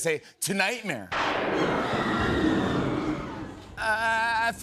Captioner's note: thunder crashes, woman screams